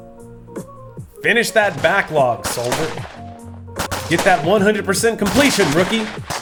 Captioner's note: army sergant voice